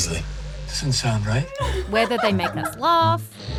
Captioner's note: laughs